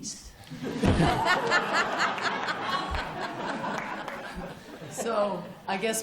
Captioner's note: laughter